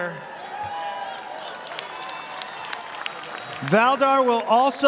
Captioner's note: audience applauding